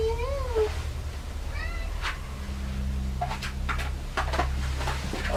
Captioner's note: cat meowing